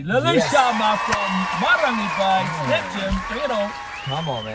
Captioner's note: people cheering